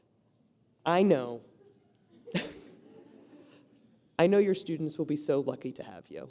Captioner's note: laughs